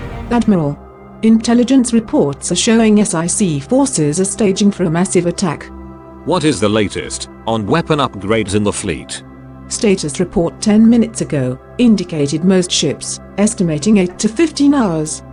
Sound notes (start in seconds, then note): none